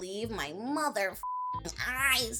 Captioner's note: beep